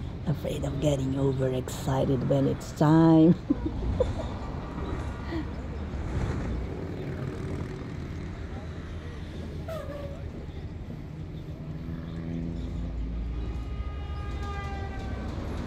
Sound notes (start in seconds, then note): 3.3 laughs; 4.3 bus engine, car, motos